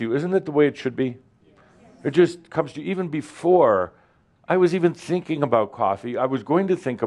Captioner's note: audience says “Yes”